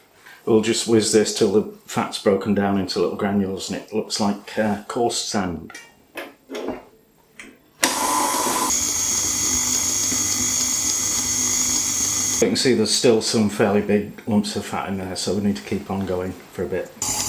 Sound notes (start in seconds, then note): 7.8 mixer noises